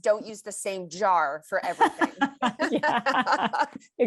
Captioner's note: laughter